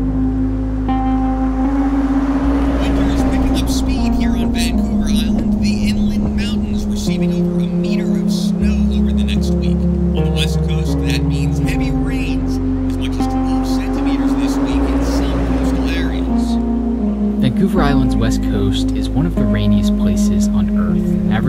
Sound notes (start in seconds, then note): 0.2 car rumbling; 3.3 radio Announcer